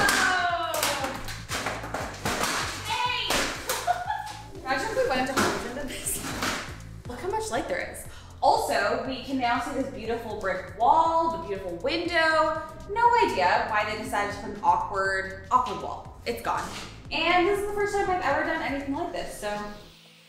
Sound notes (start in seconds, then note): 1.2 metal breaks; 3.6 chuckles; 20.1 upbeat music